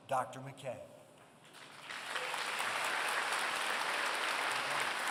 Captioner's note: applause